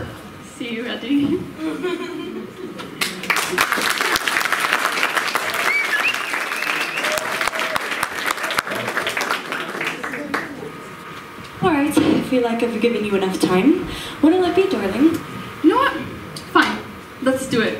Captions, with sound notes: See you, Eddie... *applause* Alright, I feel like I've given you enough time, what'll it be, Darling? You know what... fine, let's do it!